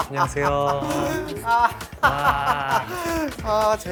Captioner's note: laughing